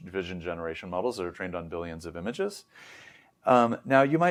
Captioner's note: inhales